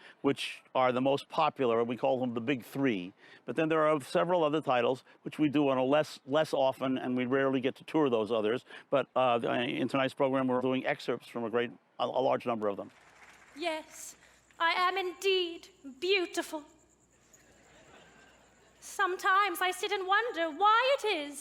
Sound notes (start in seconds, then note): 12.8 audience applauds; 17.5 audience laughs